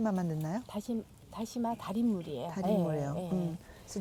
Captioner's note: speaking Korean